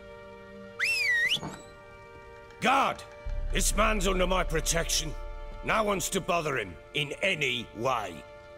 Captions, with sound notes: [whistle] GUARD! THIS MAN'S UNDER MY PROTECTION. NO ONE'S TO BOTHER HIM... IN ANY WAY.